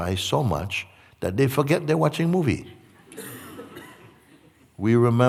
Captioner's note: laughter